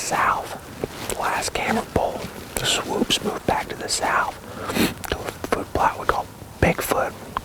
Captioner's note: whispering